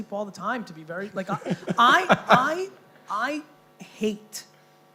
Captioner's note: laughing